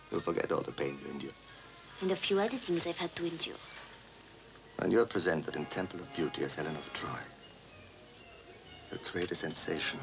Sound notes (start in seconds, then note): none